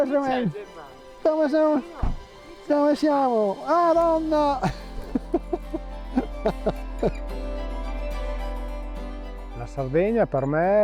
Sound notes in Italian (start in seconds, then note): 4.6 risate